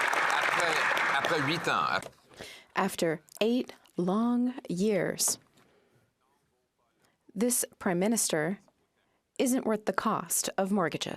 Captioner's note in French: applaudissements